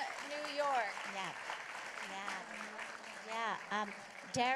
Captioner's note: applause